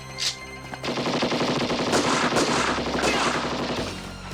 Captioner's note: guns firing